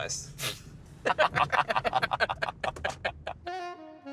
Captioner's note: laughing